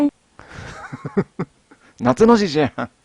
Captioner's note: laughs